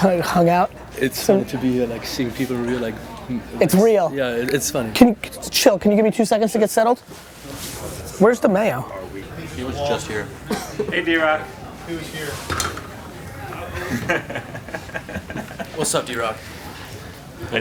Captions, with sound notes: - Come and hung out? - It's so good to be here, like seeing people real, like-- - It's real. - Yeah, it's fun. - Chill, can you give me two seconds to get settled? Where's Demayo? - He was just here. - Hey, DRock. He was here. (chuckling) - What's up, DRock?